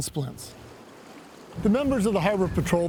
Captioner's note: water splashing